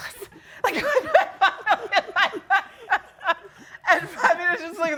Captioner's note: laughing